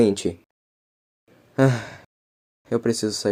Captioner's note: sigh